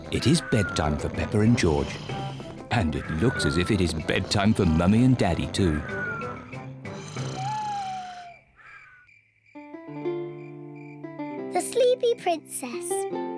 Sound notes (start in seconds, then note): 0.0 both snore; 7.5 owl hoots